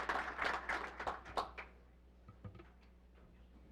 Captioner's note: applause